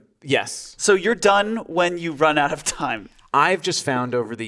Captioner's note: laughing